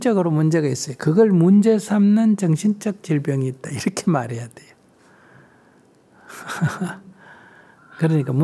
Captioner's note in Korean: 웃음